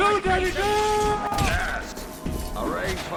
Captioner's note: thwack